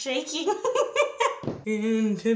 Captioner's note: laughs